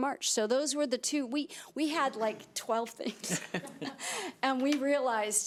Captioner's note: laughing